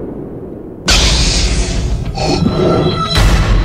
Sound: wind blowing; lightsaber ignites; mechanical breathing

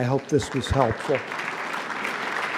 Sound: applause

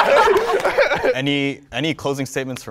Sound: participants laughing

